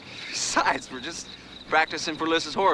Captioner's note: chuckles